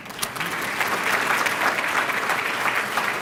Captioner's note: applause